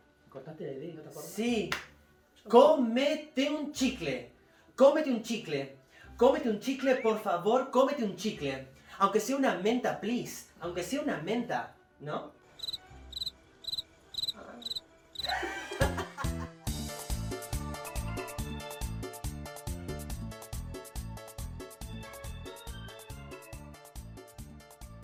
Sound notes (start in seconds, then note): 12.6 crickets; 15.2 laughter